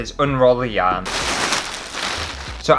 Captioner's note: plastic Rustling